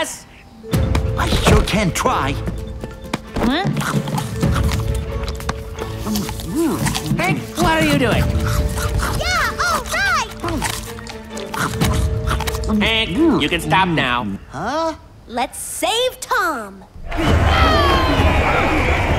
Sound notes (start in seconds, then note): 11.2 continues munching; 17.0 cheering continues